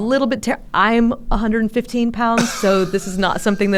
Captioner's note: laughs